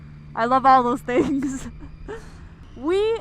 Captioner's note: chuckles